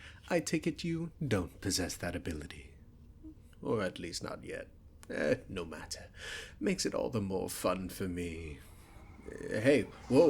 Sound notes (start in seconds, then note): 8.4 magic whooshes from you